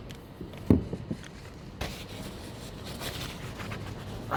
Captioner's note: pages rustling